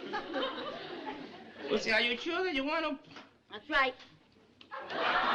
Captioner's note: laughter